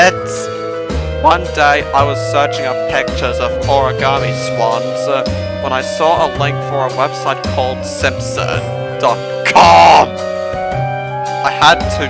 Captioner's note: groans